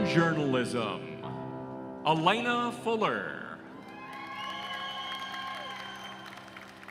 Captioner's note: applause